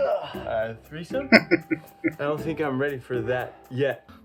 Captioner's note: chuckling